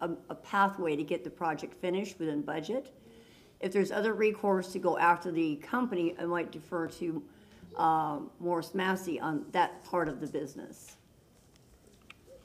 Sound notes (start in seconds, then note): none